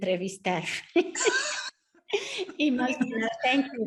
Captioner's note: both laugh